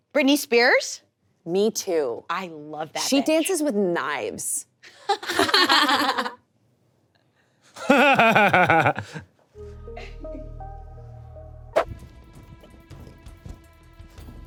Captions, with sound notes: - Britney Spears? - Me too. I love that. - She dances with knives. (people laughing) (suspenseful music)